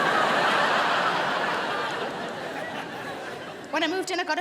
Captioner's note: crowd laughs